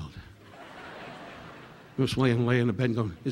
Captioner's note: audience laughing